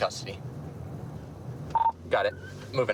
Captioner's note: radio beeps